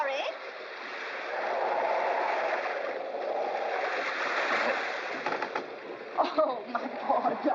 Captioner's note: ocean spray and wind howling